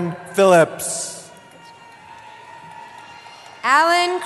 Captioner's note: cheering